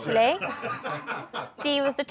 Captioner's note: laughter